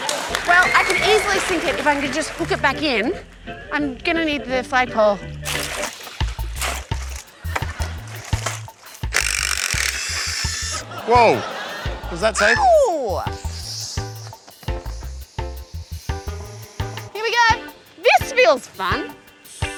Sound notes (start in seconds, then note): 8.0 drill rattles; 19.1 air hisses